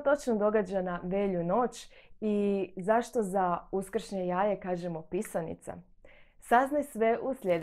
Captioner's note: Croatian